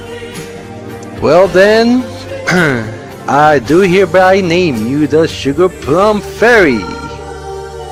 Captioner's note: clears throat